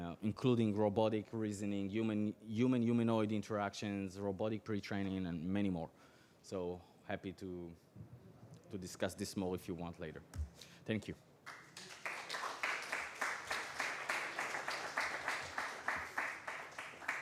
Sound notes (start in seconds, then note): 11.4 applause